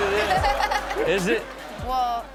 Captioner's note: audience laughs